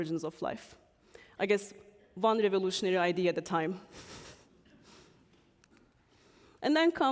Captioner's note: chuckles